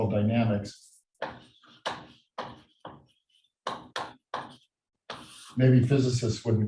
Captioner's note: chalkboard tapping loudly